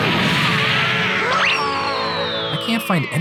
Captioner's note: screams